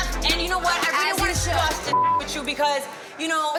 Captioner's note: beep